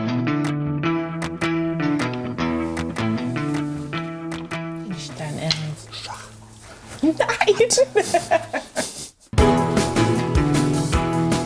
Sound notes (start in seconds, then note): 7.0 laughter; 9.3 lively music